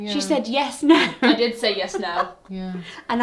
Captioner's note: laughing